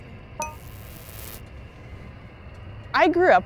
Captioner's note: electronic fizzling click